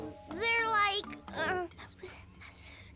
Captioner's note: whispering